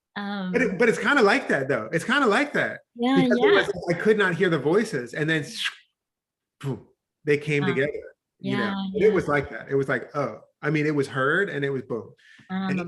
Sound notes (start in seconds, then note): 5.8 whooshes